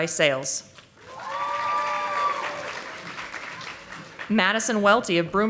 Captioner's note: audience applauding